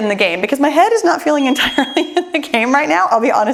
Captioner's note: bell chimes